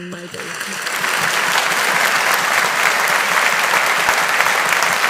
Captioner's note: audience applauding